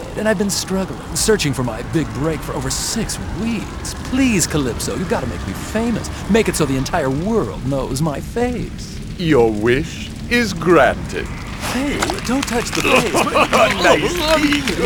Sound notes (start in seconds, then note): 10.3 flesh stretching